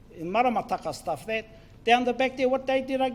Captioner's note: foreign Language